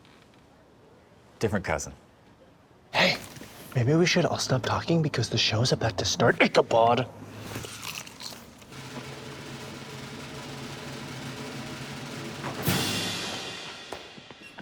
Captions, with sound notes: Different cousin. Hey, maybe we should all stop talking because the show's about to start ICHABOD. *aggressive crunch* *drumroll*